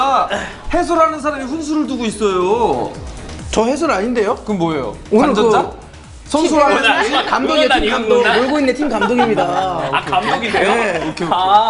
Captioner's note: arguing with each other